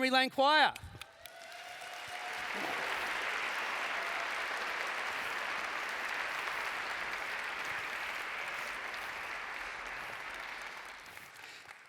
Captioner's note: cheering